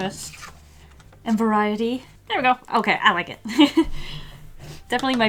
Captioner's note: laughs